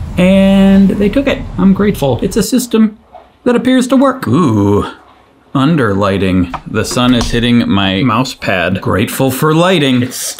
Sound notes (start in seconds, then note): none